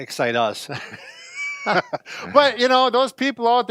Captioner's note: laughs loudly